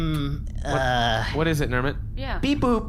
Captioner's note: clears throat